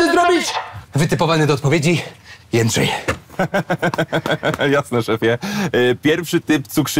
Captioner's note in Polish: śmiech